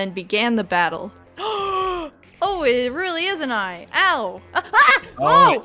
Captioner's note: gasps